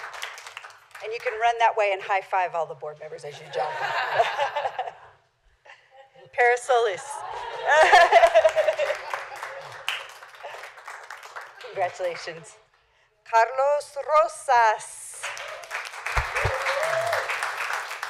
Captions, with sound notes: And you can run that way and high five all the Board members as you jump (laughter). Parris Solis. (laughter) Congratulations. Carlos Rosas (applause)